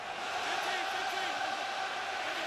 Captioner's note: crowd cheering